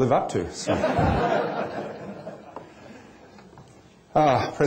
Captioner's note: laughter